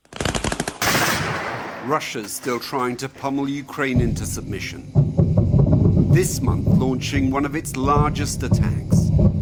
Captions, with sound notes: [gunshots] Russia's still trying to pummel Ukraine into submission. [explosion] This month launching one of its largest attacks.